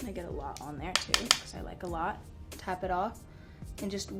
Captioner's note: tapping